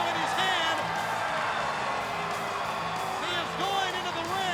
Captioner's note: crowd cheering